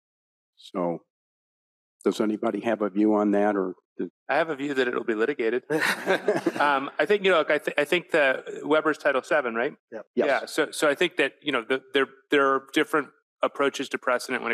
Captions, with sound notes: So does anybody have a view on that? - I have a view that it'll be litigated. (panelists and audience laughing) I think, you know, look, I think the Weber's Title VII, right? - Yep. - Yes. - Yeah, so I think that, you know, there are different approaches to precedent